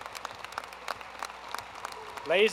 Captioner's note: applause